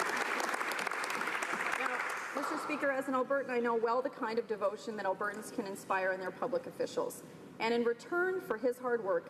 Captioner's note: applause